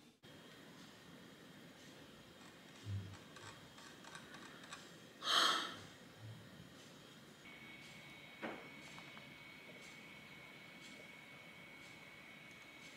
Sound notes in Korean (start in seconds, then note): 5.2 한숨